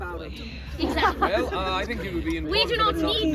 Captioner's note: laughter